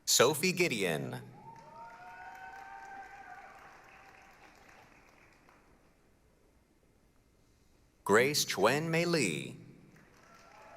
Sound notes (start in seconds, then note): 1.3 applause, cheering; 9.9 applause, cheering